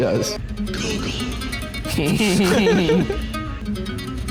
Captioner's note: whispering over plucking guitar; chuckling